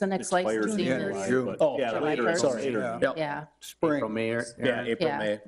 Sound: trustees clamor

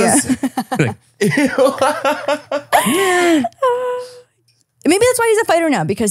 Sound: laughs

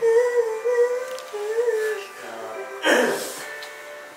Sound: argh

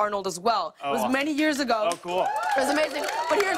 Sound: cheers and applause

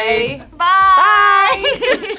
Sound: laughs

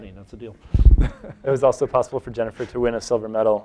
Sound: chuckles

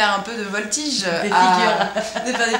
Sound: laughs

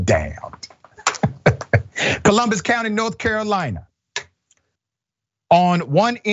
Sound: laugh

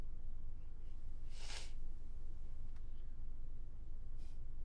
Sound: sniffs

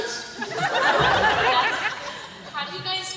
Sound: laughter

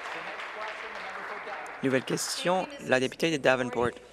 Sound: applause

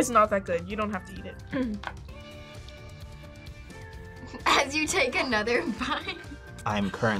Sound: laughs

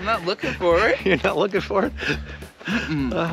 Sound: chuckles

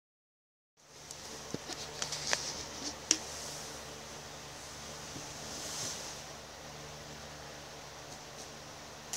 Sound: rustling sounds

